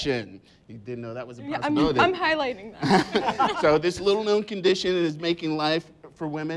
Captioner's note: laughs